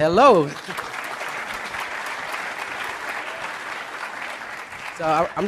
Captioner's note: applause